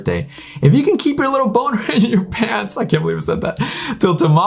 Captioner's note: laughs